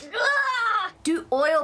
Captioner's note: yelling